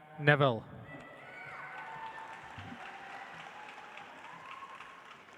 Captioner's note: audience applauds